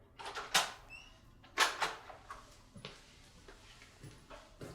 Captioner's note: door latch clicks